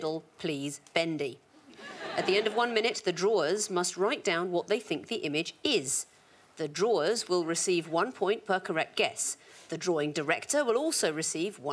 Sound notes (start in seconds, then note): 1.7 audience laughing